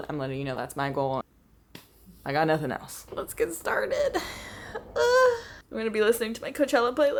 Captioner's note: gasps